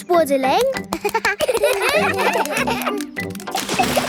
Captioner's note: children laugh